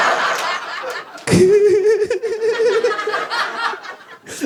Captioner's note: giggles